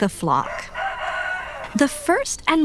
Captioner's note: rooster crowing